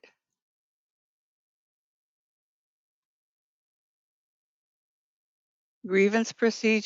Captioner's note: 5 seconds pause